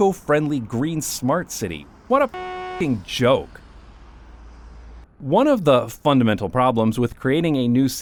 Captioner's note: honk